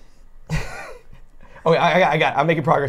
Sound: laughs

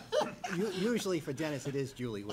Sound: laughing

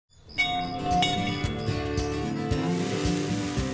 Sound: bell ringing

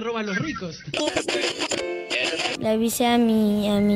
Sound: radio noise

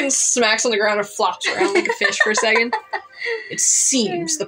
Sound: laugh

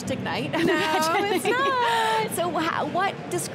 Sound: laughing

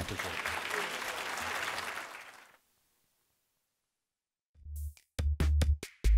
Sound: applause

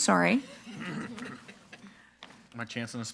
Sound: board members giggling

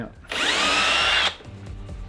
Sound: drill buzzes; upbeat music

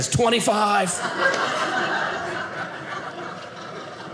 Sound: audience laughing

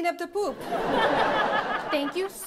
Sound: audience laughs

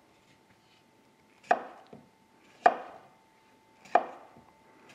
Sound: knife tapping on board

